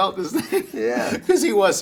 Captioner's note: both laughing